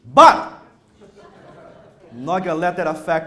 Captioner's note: audience laughter